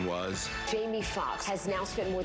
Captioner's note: applause